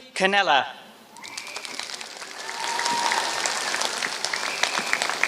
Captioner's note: applause